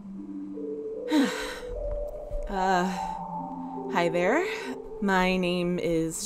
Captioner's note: sigh